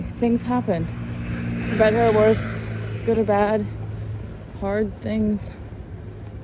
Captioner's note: vehicles pass